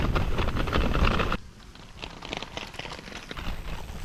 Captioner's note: insects Buzzing